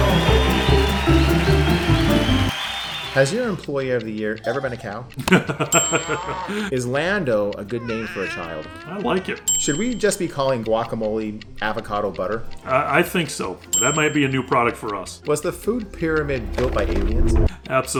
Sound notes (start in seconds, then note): 0.0 cheering; 5.1 laughing; 5.3 moos